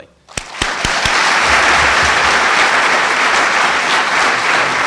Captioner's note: audience applauding